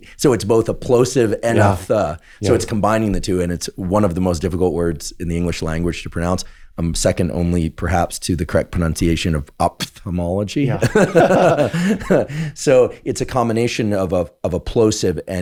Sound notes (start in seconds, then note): 10.7 Andrew laughs; 10.7 laughs